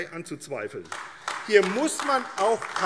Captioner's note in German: Beifall AfD